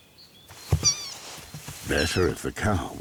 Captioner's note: calf squeaks